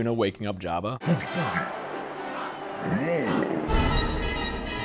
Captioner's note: Jabba noises